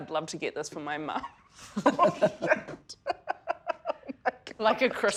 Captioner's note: chuckles loudly